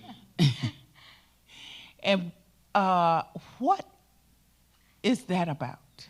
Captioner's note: laughs; chuckles